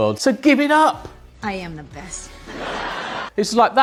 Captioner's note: audience laughing